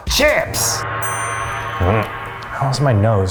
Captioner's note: gong ringing